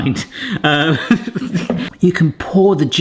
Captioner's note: laughing